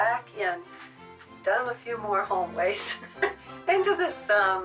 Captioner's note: chuckles